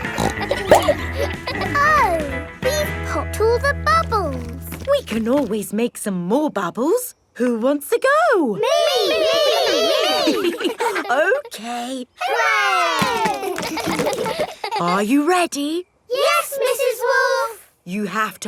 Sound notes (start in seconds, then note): 0.0 snorts; 13.3 chuckles; 13.9 kids laughing